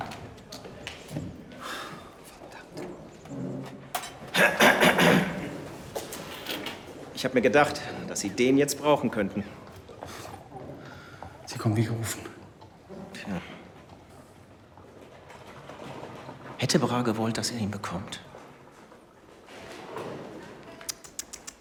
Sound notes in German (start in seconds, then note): 4.1 husten; 4.3 räuspern